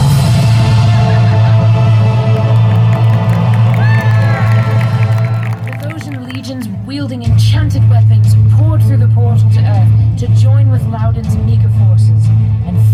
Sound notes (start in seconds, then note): 0.0 battle commotion echoes; 1.9 applause